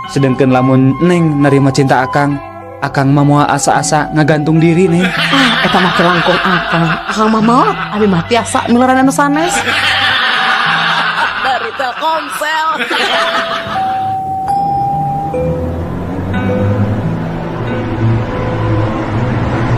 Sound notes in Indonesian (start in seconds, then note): 14.3 tertawa